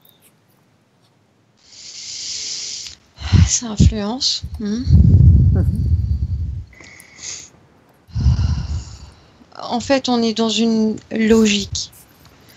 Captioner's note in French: souffle intense